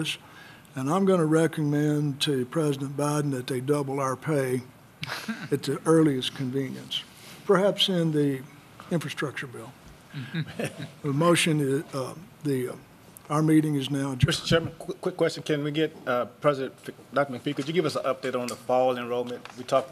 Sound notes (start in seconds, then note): 10.2 laughter